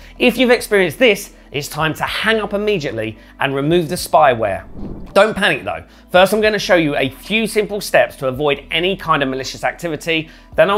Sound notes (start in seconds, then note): 4.6 air swooshing